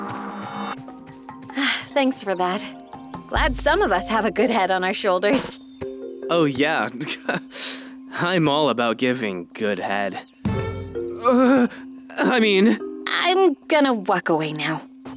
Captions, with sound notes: [sighs] Thanks for that. Glad some of us have a good head on our shoulders. Oh, yeah. [chuckles] I’m all about giving good head. Uh, I mean--! I’m gonna walk away now.